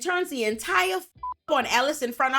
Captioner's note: beep